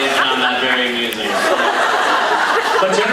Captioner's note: laughs